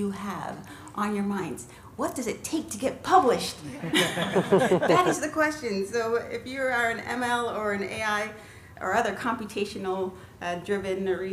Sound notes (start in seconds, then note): 3.8 laughter